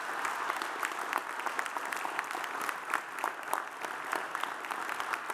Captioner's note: audience applauds